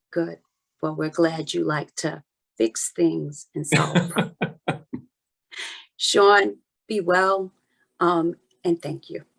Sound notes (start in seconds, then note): 3.7 laughing